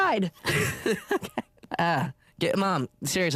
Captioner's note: laughs